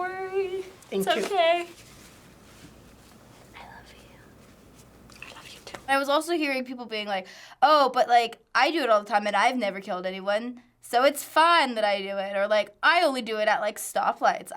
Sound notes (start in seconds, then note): 3.3 whispering; 4.4 whispering back